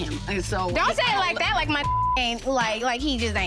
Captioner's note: beep